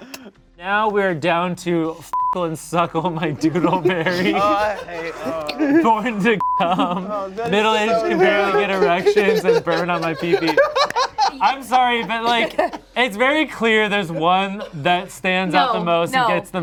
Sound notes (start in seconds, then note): 2.2 beep; 6.4 beep; 11.2 laughs